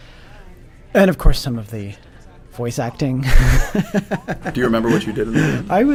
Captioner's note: chuckles